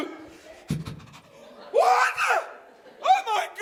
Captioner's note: gasping